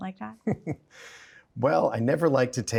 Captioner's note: chuckles